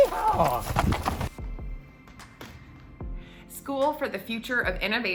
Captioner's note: shouting